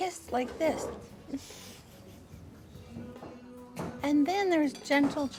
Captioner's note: Fern laughs